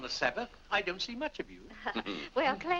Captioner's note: Clarence chuckles